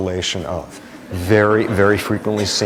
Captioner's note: laughter